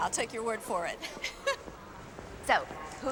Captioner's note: laughs